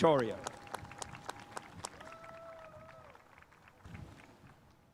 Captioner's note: spectators applauding